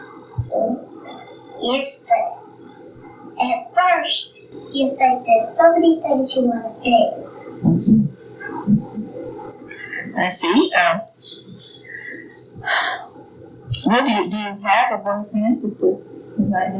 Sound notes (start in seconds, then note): 12.0 sigh